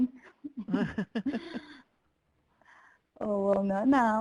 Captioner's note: laughing